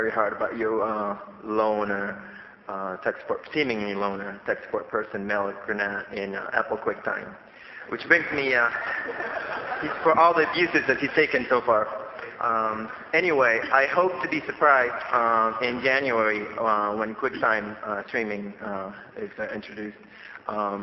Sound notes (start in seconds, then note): 8.6 laughter